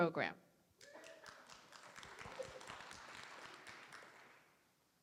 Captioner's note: applause